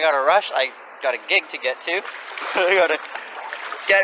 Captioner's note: laughing